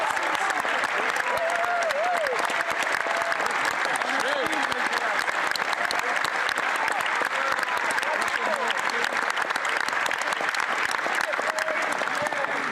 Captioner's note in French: applaudissements